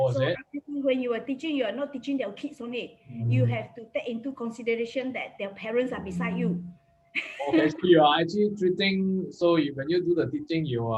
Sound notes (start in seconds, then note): 7.2 laughs